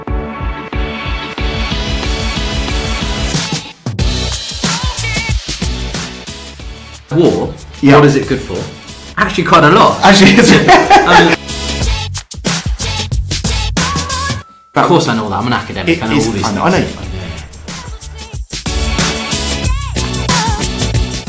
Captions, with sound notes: (upbeat music) War. What is it good for? Actually quite a lot. (both men laughing) Of course I know all that, I'm an academic. I know all this stuff. I Know you don't.